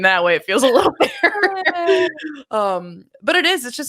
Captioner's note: laughing